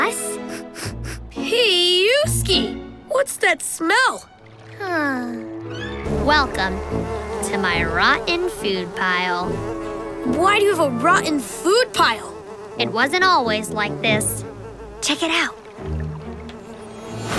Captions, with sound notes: [sniffing] Pee-yewski. What's that smell? [sighing] Welcome to my rotten food pile. Why do you have a rotten food pile? It wasn't always like this. Check it out.